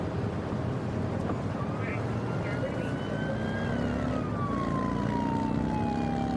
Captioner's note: siren blaring